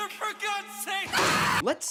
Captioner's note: screaming